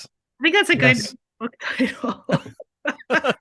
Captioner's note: laughing